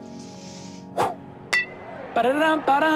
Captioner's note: whooshing